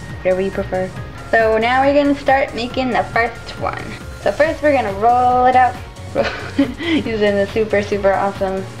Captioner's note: laugh